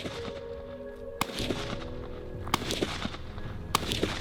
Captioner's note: guns firing